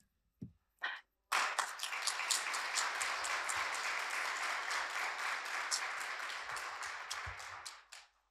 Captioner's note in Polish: oklaski